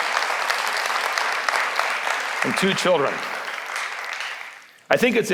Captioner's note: applause